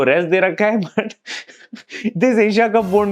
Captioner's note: laughing